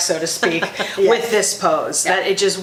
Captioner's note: laughs